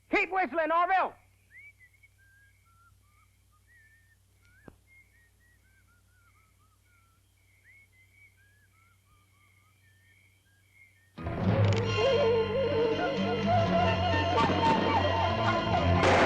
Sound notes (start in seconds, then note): 1.5 Orville whistles; 11.2 suspenseful music; 16.0 gun fires; 16.0 suspenseful music